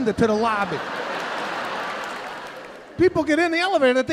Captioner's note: audience laughing